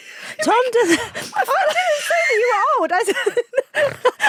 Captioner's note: both laughing